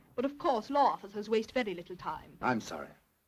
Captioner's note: none